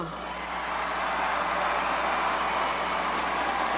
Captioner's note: crowd cheers